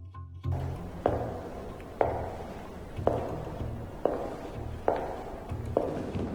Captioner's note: Serena's heels click across the floor